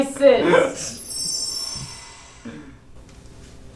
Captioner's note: digital shimmer